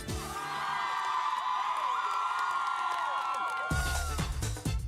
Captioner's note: crowd cheers; lively electronic music